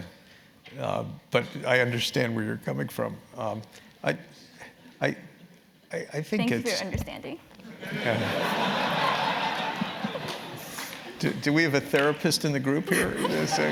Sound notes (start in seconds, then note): 7.8 laugh